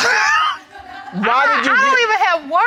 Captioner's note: laughing